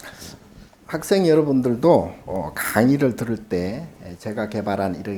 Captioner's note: speaking Korean